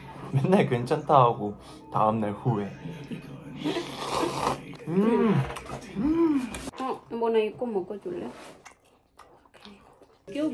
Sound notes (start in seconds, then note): 3.0 laughing